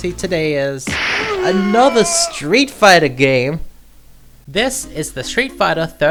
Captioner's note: punching sound effect